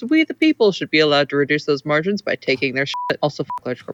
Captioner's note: beep